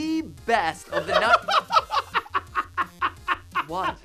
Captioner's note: laughing